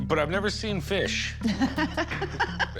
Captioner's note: laughs